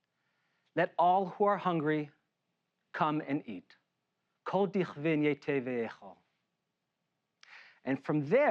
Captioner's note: Hebrew